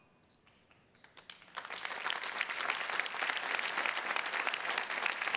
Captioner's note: attendees clapping